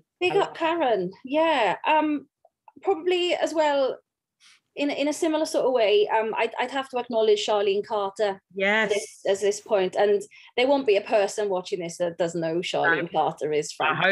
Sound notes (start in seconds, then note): none